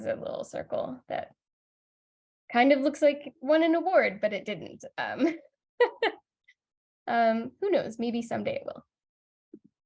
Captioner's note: laughs